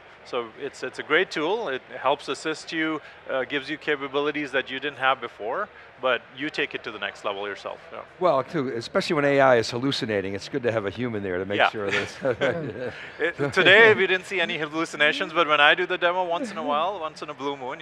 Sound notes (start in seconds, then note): 11.6 laughs